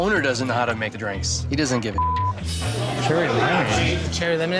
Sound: beep

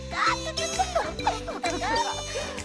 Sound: laughter

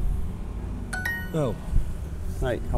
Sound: sound Duolingo

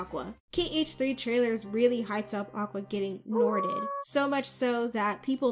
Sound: wolf howl sound effect

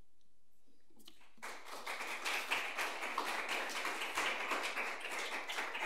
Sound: audience applauds

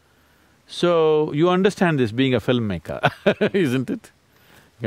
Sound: laughs

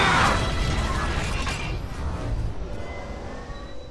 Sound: mechanical Sound Effects

